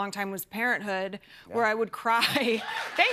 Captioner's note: cheers and applause